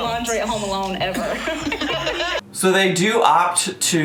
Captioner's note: laughing